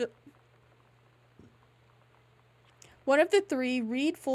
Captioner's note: disappointed Silence